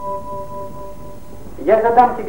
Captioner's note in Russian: закадровый голос